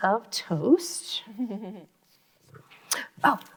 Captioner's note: laughing